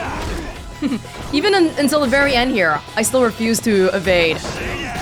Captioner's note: chuckles